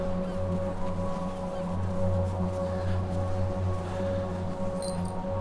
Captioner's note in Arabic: طقطقة إبزيم الحزام